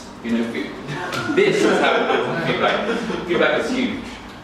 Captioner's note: audience laughing